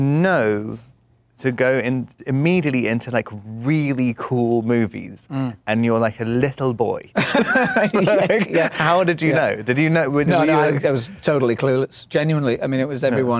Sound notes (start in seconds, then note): 7.2 laughs